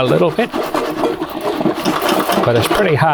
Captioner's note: continues rattling